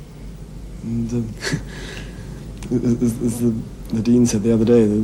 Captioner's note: stammers